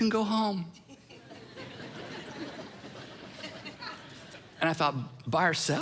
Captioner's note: congregation laughing